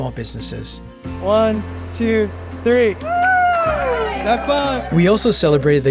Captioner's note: cheering